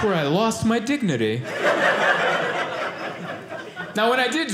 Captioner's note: audience laughing